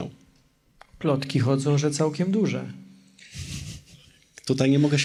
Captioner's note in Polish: śmiech